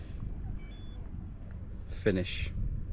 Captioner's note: watch beeps